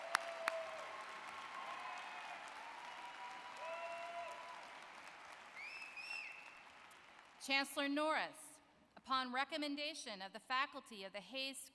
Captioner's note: cheering and applause